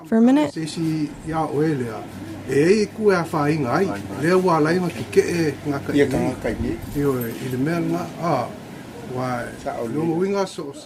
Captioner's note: speaking Samoan